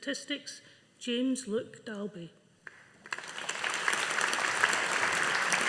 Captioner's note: audience applauding